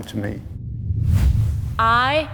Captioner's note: wind whooshes